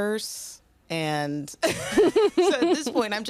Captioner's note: laughter